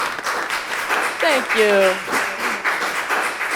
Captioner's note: applause